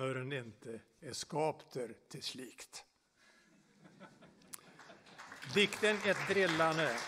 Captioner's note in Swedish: applåder